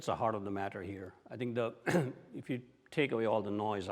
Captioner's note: clears throat